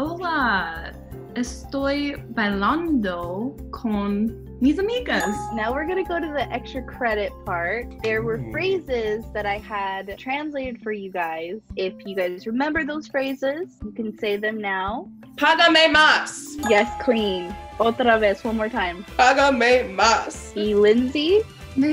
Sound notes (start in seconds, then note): 0.1 speaking Spanish; 5.2 bell dings; 15.1 speaking Spanish